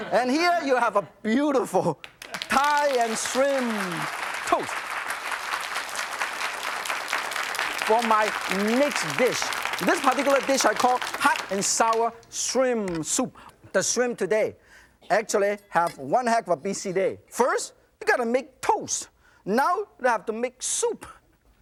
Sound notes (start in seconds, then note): 5.1 audience claps